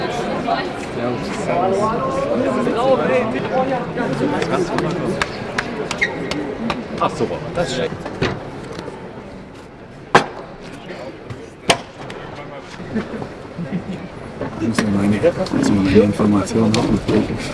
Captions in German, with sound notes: Servus. Servus. *Gemurmel* Ich muss nochmal meine Informationen durchgehen